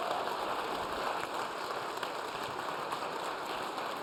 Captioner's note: applause